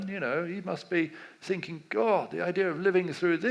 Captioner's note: none